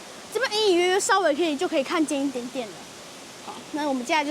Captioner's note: waterfall